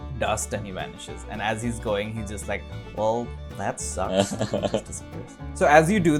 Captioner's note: laughter